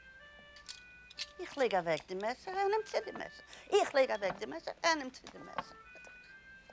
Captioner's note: speaking in foreign language